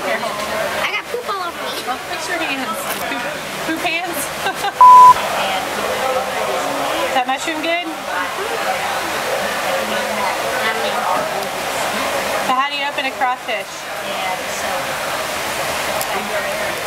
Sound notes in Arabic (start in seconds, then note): 4.8 زمارة